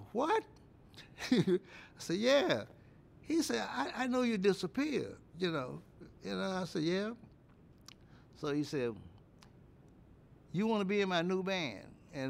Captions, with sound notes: "WHAT?!" [ CHUCKLES ] I SAID, "YEAH." HE SAID, "I KNOW YOU DISAPPEARED," YOU KNOW. I SAID, "YEAH." SO HE SAID, "YOU WANT TO BE IN MY NEW BAND?"